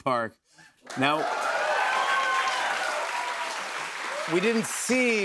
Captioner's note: cheers and applause